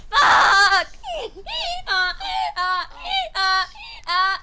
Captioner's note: Phoebe sobbing like a donkey